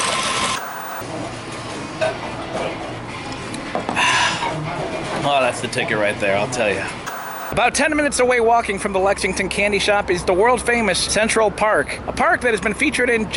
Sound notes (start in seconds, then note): 0.5 white noise scratching; 7.0 white noise scratching